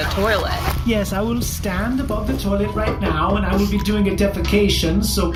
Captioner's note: unzipping pants